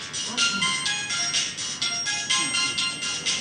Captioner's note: phone rings